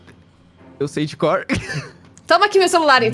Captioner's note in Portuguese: risada